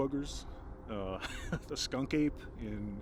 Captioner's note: laughs